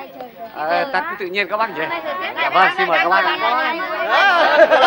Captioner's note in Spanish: gente hablando ruidosamente